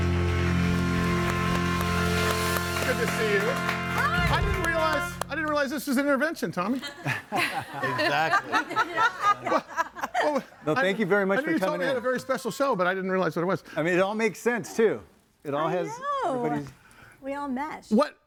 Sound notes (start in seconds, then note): 6.9 laughs; 8.8 audience laughing